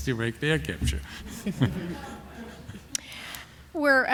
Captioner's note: laughter